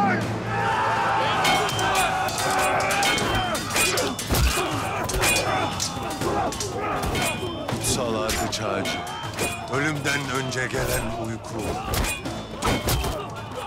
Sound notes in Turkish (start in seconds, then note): 0.6 Haykırıyorlar; 0.6 Kılıç sesleri